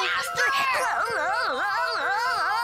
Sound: groaning

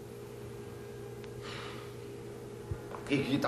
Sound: sighs

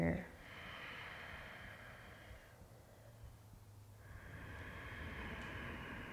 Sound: deep breathing

